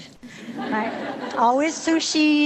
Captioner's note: audience laughing